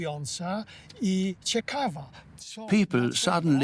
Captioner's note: in Polish